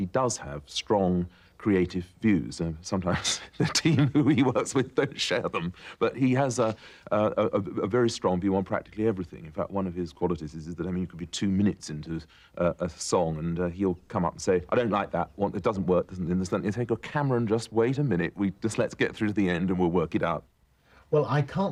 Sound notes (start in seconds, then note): 6.2 laughter